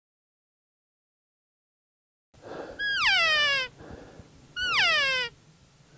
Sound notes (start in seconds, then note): 2.8 cow Call